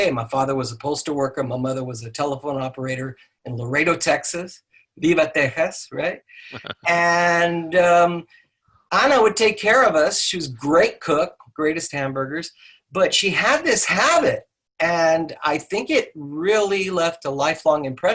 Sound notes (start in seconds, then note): 4.9 speaking in a foreign language; 6.5 laughing